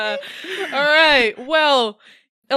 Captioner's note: laughter; cheering